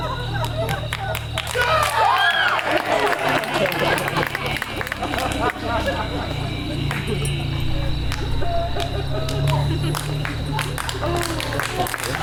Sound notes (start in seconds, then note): 3.3 audience applauds; 3.3 audience laughs